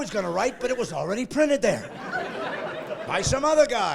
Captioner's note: laughing